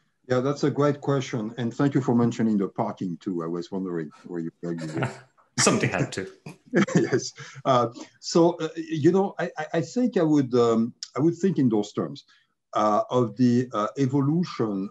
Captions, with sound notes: >> Yeah, that's a great question and thank you for mentioning the parking too. I was wondering before you got there. >> Yes, [LAUGH] so I think, I would think in those terms of the evolution